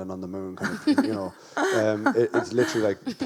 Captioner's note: guests laugh